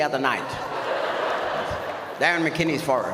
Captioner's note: audience laughs